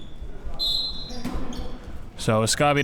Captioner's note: whistle blows